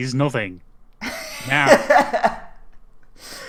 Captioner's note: laugh